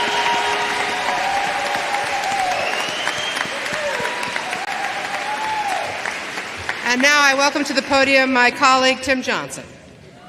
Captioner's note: applause